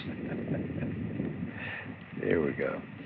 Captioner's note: chuckles